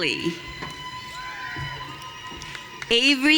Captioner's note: audience cheering